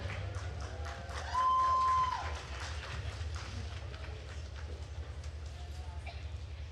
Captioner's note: attendees cheering and applauding